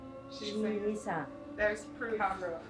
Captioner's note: string music continues; woman speaking Spanish